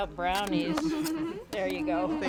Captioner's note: laughs